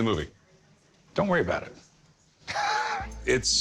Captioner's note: chuckles